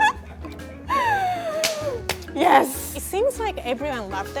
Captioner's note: clapping